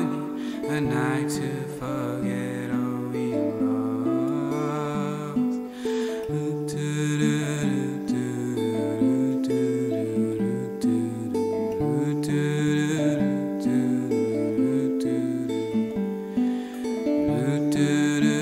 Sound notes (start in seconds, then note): 6.1 humming